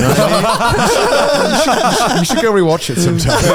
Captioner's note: all laughing